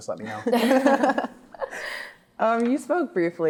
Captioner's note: laughing